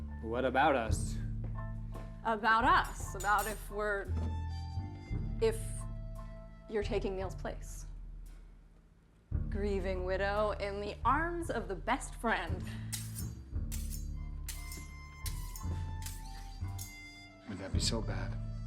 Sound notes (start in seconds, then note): 12.9 knife scraping against sharpener